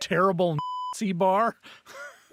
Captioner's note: beep